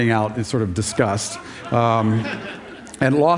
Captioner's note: Laughter; 笑聲